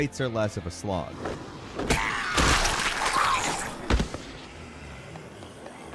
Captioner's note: zombie growls and gurgles